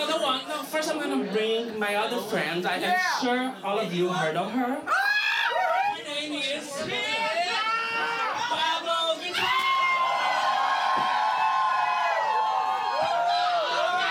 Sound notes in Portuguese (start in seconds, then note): 9.3 gritos animados